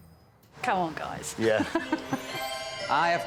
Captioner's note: laughs